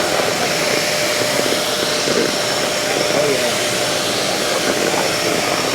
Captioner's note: vacuum noise